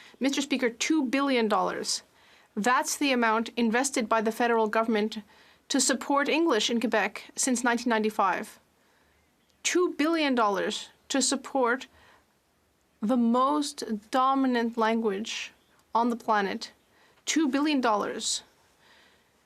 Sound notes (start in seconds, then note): 5.0 speaking French